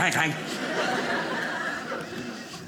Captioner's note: audience laughing